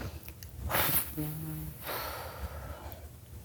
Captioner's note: exhale